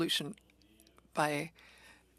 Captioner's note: speaking French